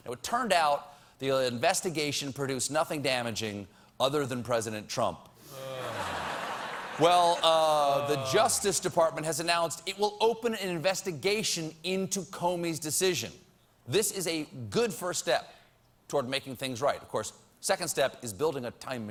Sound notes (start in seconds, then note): 5.6 laughter